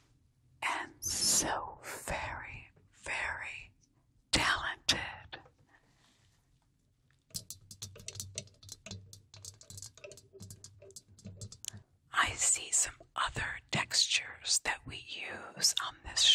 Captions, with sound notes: And so very, very talented. [light tapping] I see some other textures that we use on this show.